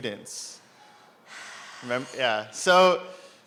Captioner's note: sighs